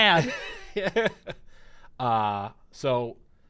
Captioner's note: laughs